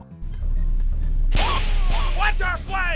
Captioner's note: double snap Marv